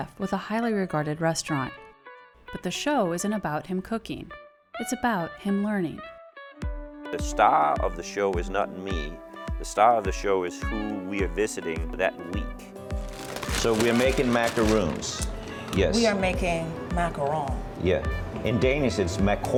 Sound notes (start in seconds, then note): 12.9 paper rustling